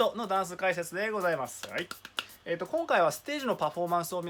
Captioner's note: clap